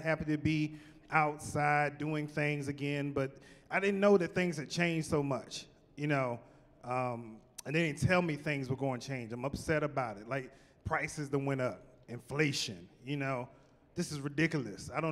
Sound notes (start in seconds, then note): none